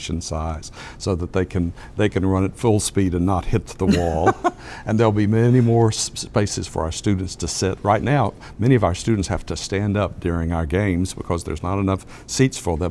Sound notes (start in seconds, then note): 3.9 laugh